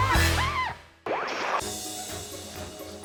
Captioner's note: slippery metal squeaking; whimsical jazz music; transition whooping; whimsical music